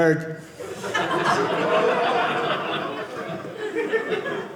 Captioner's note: audience laughing